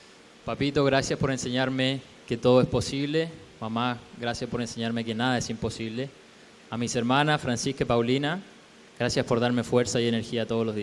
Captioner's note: speaking spanish